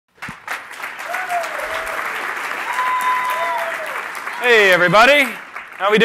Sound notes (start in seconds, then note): 0.1 applause